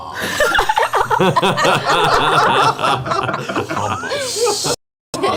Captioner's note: all laugh